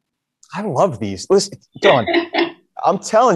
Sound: laughs

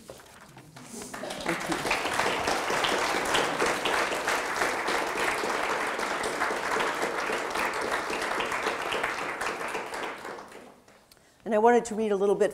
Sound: audience applauding

